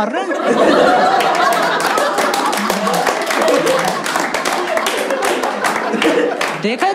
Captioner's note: Clapping; Hooting